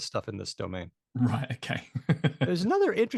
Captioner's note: laughs